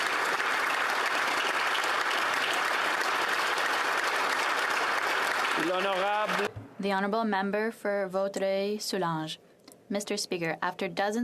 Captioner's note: applause